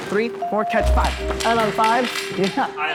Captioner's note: flag clanging